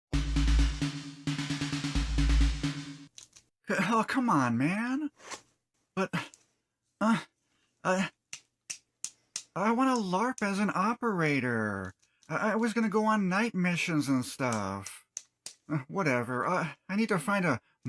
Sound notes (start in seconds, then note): 9.3 tapping